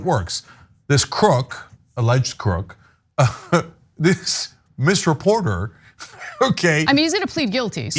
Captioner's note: laugh